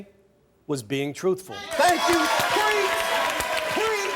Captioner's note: audience applauding